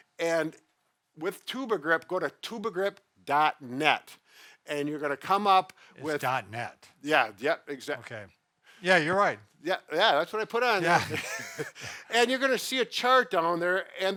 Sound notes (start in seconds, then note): 10.8 both laugh